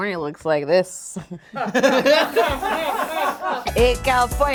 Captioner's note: group laughing